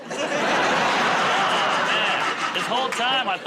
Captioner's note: laughter